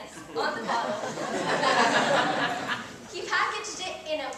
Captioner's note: audience laughs